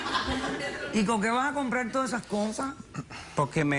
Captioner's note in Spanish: Risas